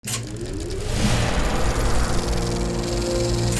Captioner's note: projector whirring; lively music